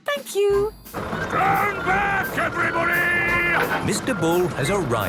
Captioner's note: shouting